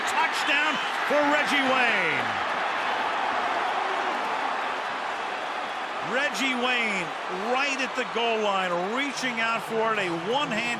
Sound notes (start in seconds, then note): 2.6 crowd clamoring